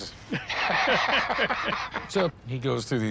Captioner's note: laughter